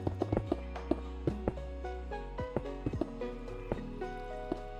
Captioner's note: water bubbling